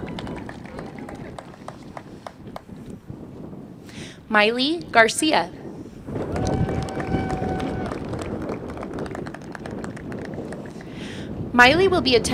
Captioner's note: applause